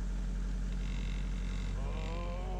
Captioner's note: buzzing; ohhhh